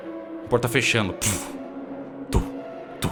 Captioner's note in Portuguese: puff